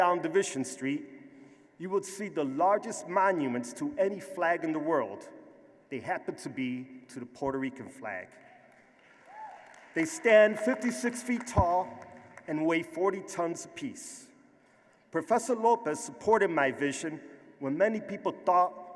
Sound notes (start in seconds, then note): 8.5 applause; 9.1 cheer